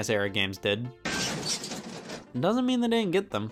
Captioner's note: loud crashing